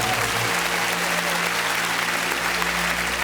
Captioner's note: applause